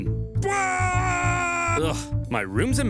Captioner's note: Scipio the Younger cheers